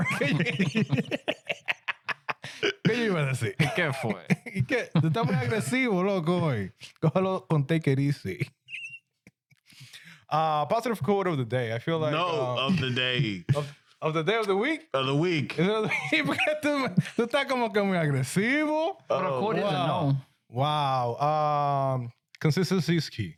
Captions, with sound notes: (Laughing) (Speaking In Foreign Language) Positive coat of the day. I feel like. No, of the day. Of the day of the week? Of the week. (Speaking In Foreign Language) Wow. Wow. Consistency is key.